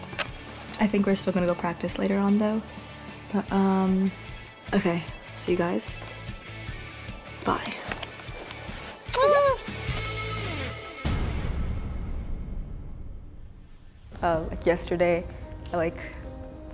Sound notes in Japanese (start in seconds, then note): 9.0 チュッ♥